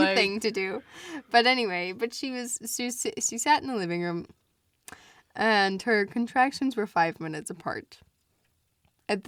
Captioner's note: stammers